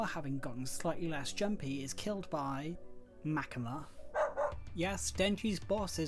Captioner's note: dog barking